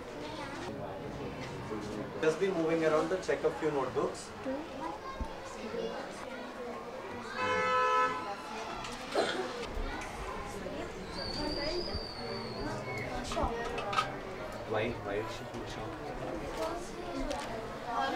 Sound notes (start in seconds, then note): 7.3 car horn beeps